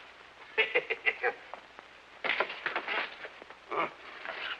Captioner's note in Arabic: شيمب يضحك